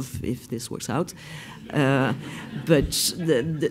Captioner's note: laughs